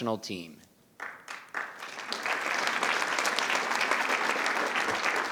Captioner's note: attendees applauding